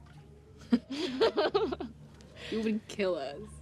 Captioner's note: Kimberly and Bethany laugh